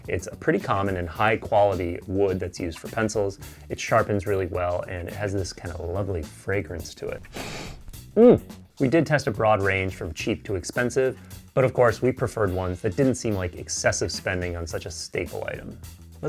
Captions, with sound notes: It's pretty common in high quality wood that's used for pencils. It sharpens really well. And it has this kind of lovely fragrance to it. (inhales deeply) Mmm We did test a broad range from cheap to expensive, but of course we preferred ones that didn't seem like excessive spending on such a staple item.